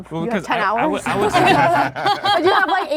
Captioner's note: everyone laughing